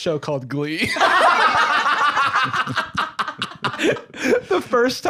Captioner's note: all laughing